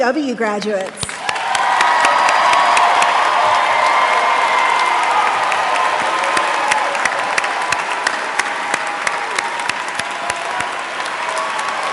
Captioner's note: applause